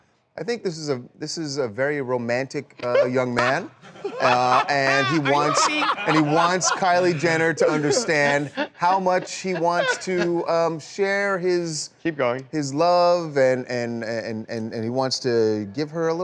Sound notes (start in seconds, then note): 3.8 laughter